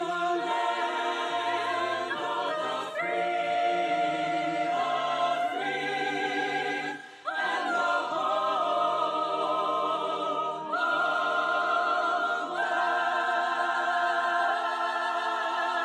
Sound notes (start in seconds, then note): none